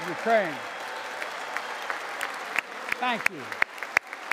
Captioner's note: applause